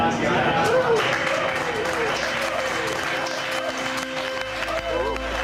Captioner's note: applause